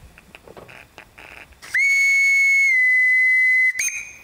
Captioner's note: engine whistle